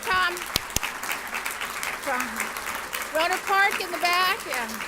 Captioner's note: audience applauds